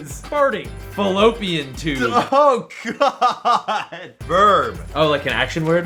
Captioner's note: laughing